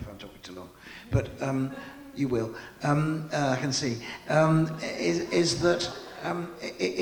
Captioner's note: audience laughing